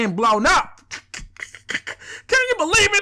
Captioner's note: snickering